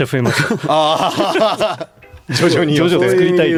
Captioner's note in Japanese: 笑い